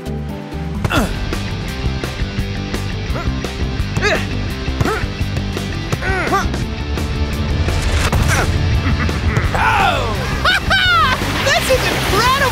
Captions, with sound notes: (grunting) (upbeat music) - This is incredible.